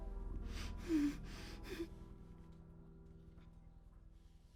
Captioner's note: Kathy whimpering